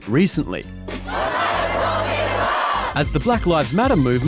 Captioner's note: crowd chants